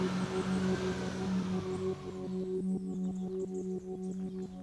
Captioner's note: birds chirping